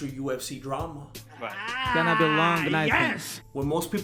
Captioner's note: "the world's most tipsy man" noises